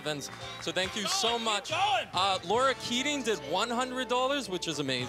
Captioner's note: applause